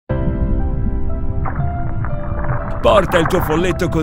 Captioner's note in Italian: mare in sottofondo